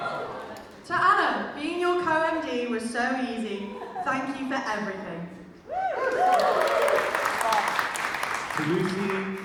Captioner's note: audience cheers and claps